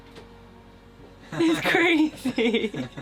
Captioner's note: laughing